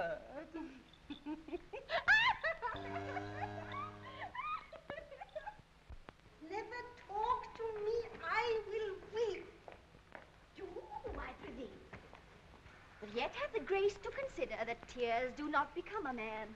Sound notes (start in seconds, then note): 1.0 Audrey laughing; 2.7 cow mooing